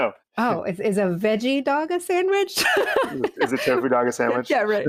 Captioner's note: chuckles